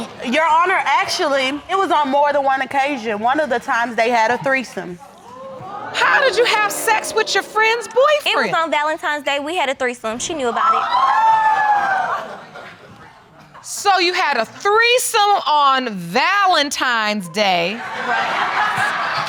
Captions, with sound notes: Your Honor, actually, it was on more than one occasion. One of the times, they had a threesome. How did you have sex with your friend's boyfriend? It was on Valentine's day, we had a threesome. She knew about it. (AUDIENCE EXCLAIMS) So, you had a threesome on Valentine's Day... (AUDIENCE LAUGHS)